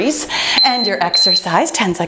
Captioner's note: timer beeping